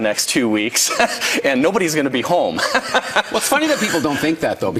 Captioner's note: laughing